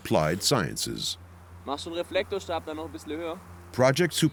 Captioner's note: speaking German